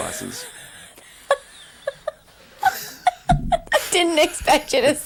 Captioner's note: laughing